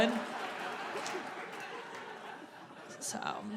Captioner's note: audience laughing